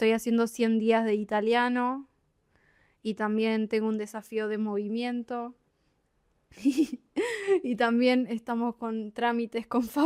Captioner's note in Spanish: risas